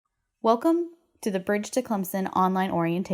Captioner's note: voiceover